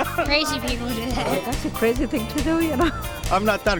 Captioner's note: laughs